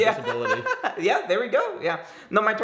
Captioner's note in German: lacht